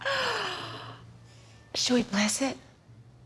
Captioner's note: gasps